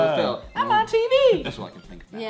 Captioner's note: Mike Teavee voice